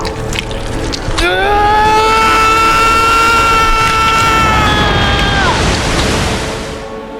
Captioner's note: screaming